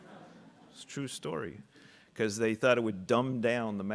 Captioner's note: audience laughing